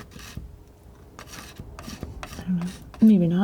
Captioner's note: tapping